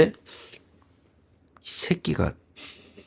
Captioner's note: laughter